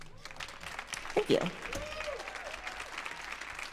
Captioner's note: applause